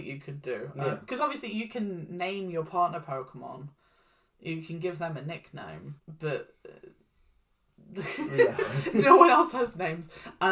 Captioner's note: laughs